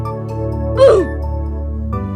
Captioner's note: RobloxOldDeathSound.mp3